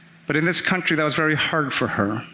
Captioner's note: none